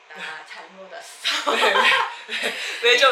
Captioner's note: laughing